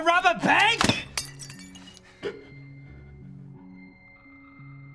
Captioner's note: glass breaks